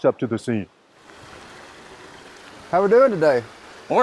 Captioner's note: truck rumbling